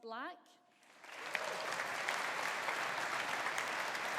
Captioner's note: audience applauding